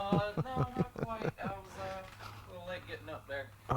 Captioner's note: laughs